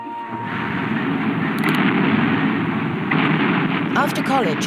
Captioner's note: artillery explodes